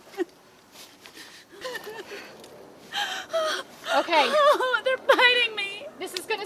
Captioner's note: Jody crying